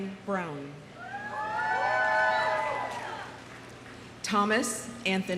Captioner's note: audience cheering